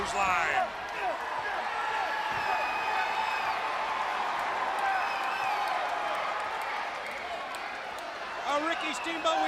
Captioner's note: crowd chatter